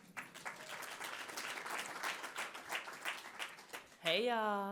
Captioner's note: audience applauding